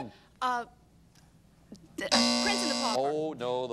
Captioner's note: bell rings; buzzer sound